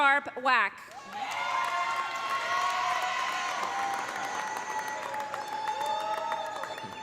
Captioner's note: audience applauding; audience cheering